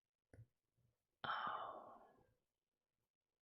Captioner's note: whispers